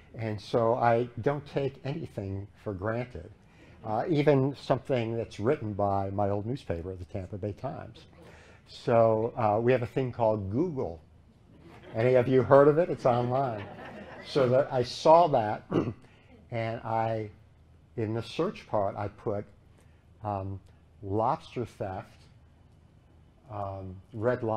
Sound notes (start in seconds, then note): 11.5 laughter